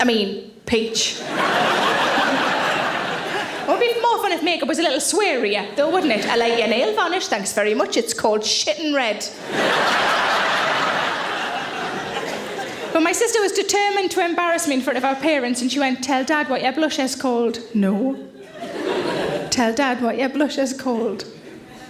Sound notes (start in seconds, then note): 0.0 audience laughs softly; 1.2 audience laughs loudly; 9.4 audience laughs; 18.3 audience laughs softly